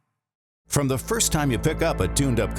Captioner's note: voiceover